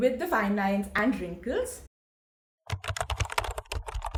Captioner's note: typing sound